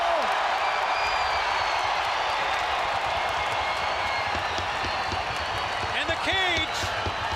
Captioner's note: crowd cheering